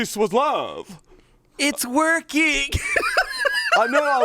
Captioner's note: laughs